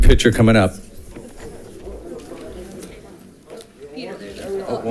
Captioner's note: crowd chatting